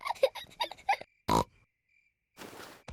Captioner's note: both giggle; oinks